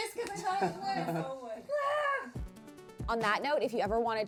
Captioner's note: squeals